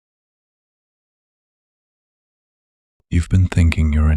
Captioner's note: soft voice